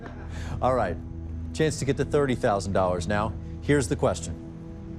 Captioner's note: laughs